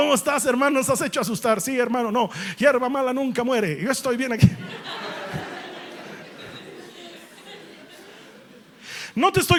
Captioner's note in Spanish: risas